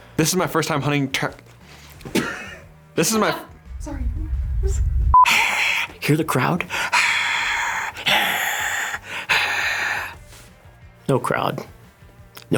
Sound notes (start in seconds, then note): 2.1 laughting cutting him off; 5.2 trying to sound like a crowd cheering